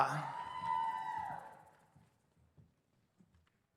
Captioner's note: audience cheers